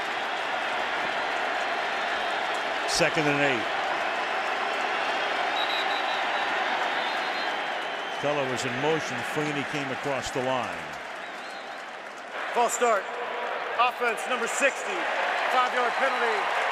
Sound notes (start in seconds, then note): 6.7 whistle